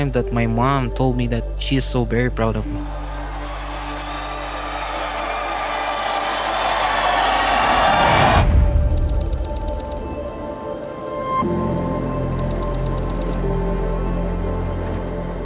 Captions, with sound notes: that my mom told me that she is so very proud of me. [crowd cheering]